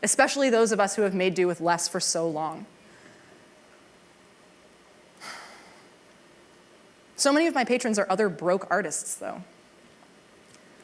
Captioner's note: sigh